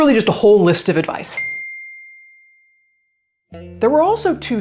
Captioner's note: bell dings